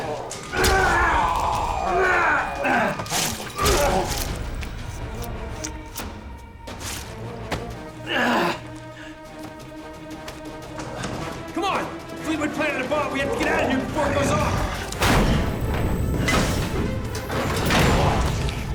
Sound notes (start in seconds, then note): 0.0 groans